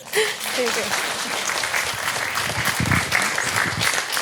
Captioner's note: audience clapping